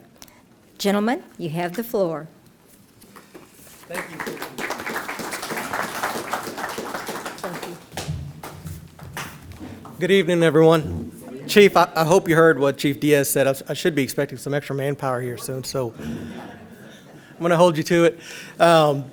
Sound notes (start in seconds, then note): 3.1 applause